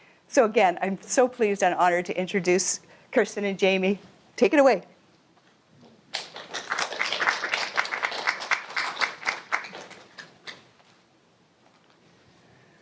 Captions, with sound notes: So again I am so pleased and honoured to introduce Kirsten and Jamie. Take it away! [Applause]